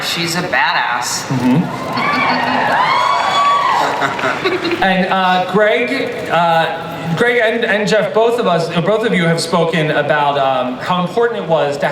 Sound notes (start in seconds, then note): 1.6 audience cheers; 3.2 laughs